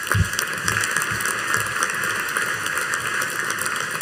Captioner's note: audience applauding